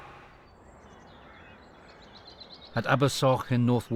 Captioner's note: boat droning; birds chirping